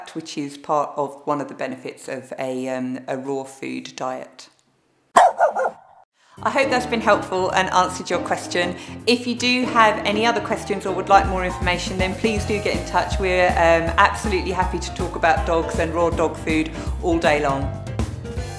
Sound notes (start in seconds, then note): 5.1 dog barking